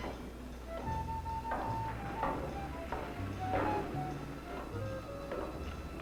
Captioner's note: jazzy dramatic music; footsteps approaching